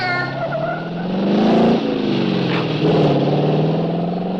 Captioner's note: engine revving